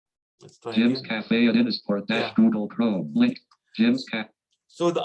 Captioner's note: automated Voice